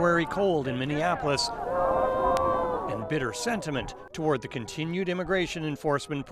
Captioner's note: chanting